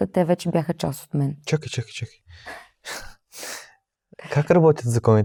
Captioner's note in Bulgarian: смях